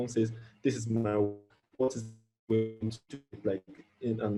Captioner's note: audio distorting